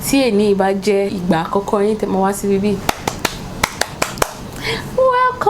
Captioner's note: clappppppp